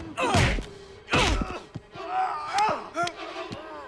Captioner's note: Knox and Dalton grunting; blows thudding